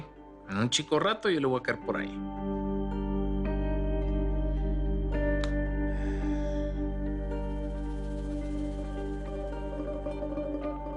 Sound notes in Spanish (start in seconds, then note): 5.9 Suspiros